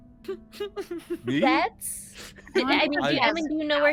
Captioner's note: Cornette laughs